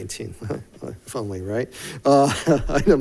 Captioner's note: chuckles